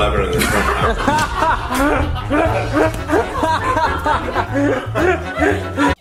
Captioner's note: Shane and Ryland laugh